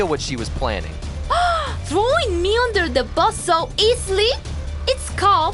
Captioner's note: gasps